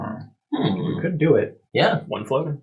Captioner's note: counting